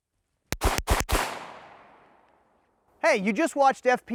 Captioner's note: gun popping